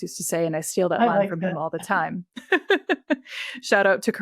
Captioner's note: laughs